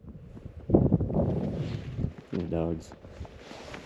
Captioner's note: wind rustling